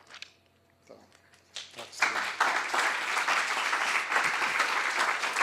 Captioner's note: applause